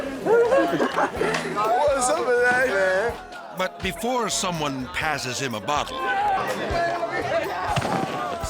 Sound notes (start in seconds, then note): 0.0 laughs